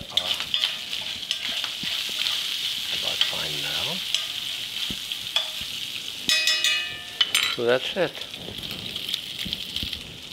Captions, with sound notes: (sizzling) about fine now. (sizzling and metal clanking) So that's it.